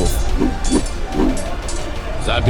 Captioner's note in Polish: dźwięki walki i machania bronią